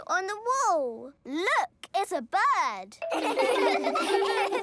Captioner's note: laughter